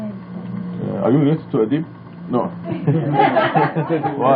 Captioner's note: laughing